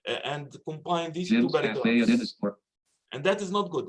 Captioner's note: automated Voice